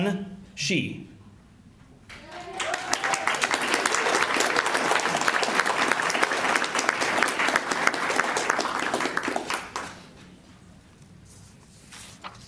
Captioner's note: applause